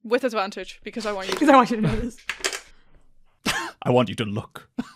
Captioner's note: dice clacks